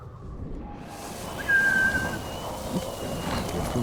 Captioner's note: whistling